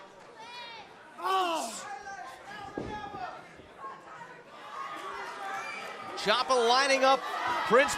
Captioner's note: crowd chatter